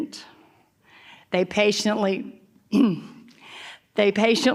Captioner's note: clears throat